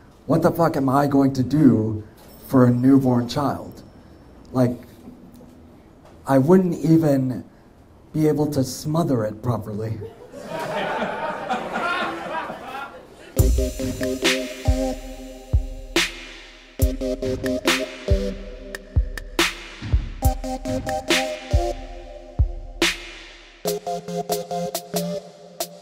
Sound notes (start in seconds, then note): 10.1 audience laughs; 13.6 upbeat music